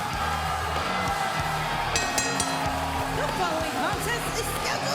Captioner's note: cheers